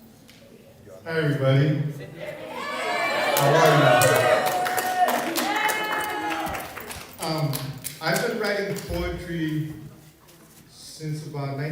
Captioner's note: more cheers